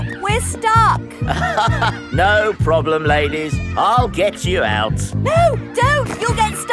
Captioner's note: chuckles